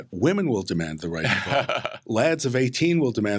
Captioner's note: laughs